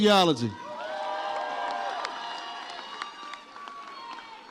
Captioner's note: audience cheers